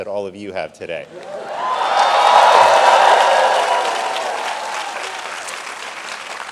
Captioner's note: audience cheering and clapping